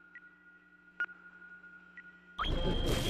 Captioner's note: beeping